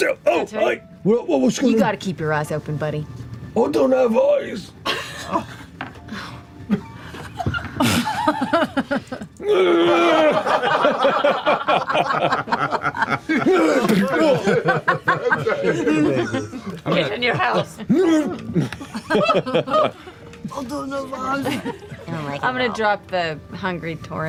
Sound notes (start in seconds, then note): 4.8 laughs; 8.2 laughter; 9.4 groans; 11.6 laughter; 15.3 grunts; 17.8 groans like Pâté; 22.1 surprised grunt